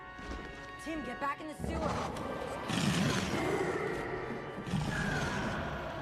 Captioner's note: roaring